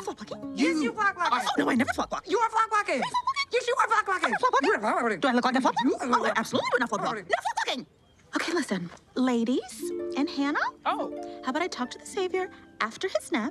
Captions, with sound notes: -You! -Yes, you're flock blockin'. -Oh no, I never flock block. -You are flock blockin'. -Me flock blocking?! -Yes you are flock blocking! -I'm not flock blocking. -(MOCKING) -Do I look like I flock block? -(MOCKING) Oh, I absolutely would not flock block. Not flock blocking! Okay, listen. -Ladies... and Hannah. -Oh. How about I talk to the savior after his nap